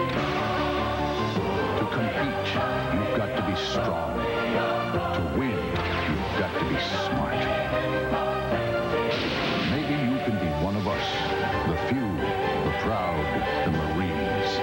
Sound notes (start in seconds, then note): 8.7 thunder